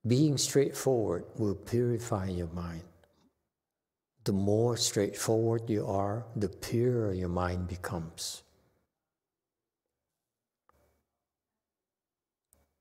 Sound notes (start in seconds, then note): none